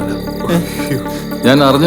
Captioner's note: moaning